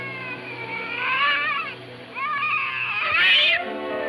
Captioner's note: cat meowing